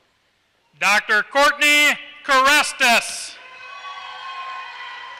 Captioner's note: applause